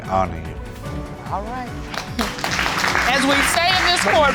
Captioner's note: applause